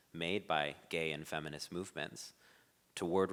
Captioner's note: none